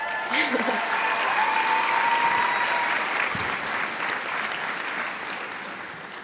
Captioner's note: cheers and applause